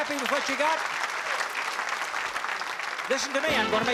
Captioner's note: applause